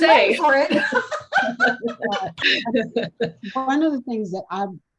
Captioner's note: both laughing